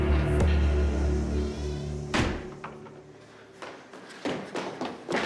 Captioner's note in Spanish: Sonido al cerrar la puerta